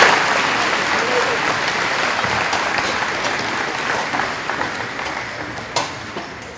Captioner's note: audience applauding